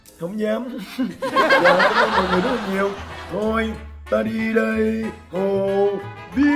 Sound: laughing

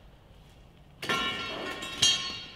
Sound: pipe hits the floor

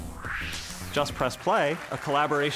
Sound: whoosh

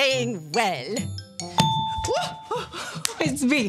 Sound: buzzer Ding

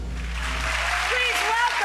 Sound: audience clapping

